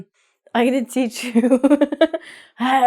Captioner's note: laughs